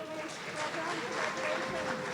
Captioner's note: audience applauding